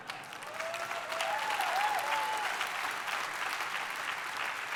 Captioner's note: audience cheering